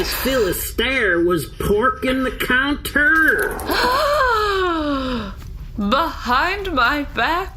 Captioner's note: sorrowful